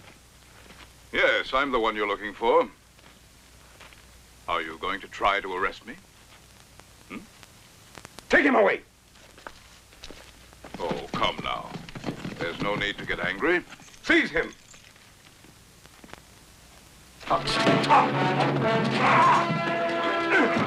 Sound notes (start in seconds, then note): 16.5 grunting; 17.3 dramatic music